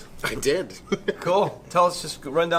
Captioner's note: laughs